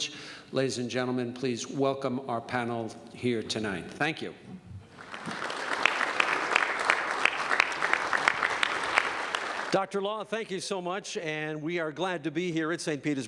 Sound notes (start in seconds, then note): 4.9 applause